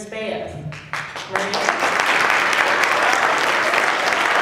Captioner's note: applause